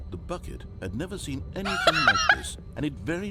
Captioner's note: laughs